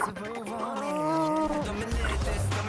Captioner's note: struggling